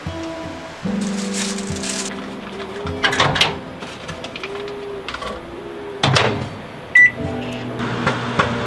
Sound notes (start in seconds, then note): 7.0 beep; 7.8 popcorn popping